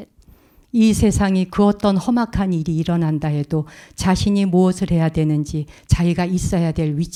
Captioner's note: speaking in Korean